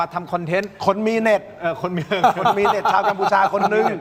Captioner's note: laughter